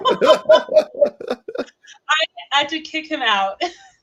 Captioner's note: laughing